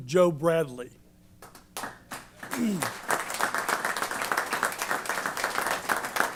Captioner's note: applause